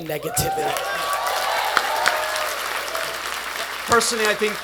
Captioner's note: attendees applauding